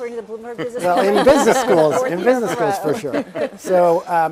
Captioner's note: laugh